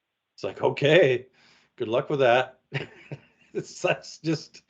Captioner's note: laughs